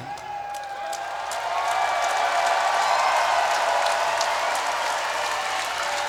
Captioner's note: crowd cheers and claps